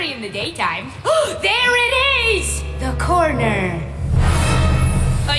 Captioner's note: gasps; tense music